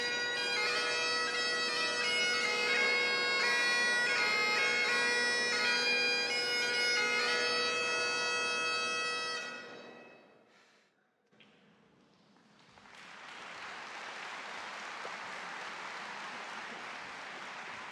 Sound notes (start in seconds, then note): 0.0 celebratory bagpipe music continues; 13.6 audience claps